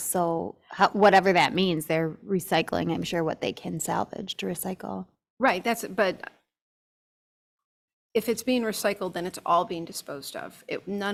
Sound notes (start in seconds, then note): none